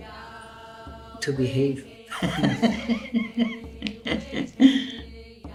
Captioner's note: laughs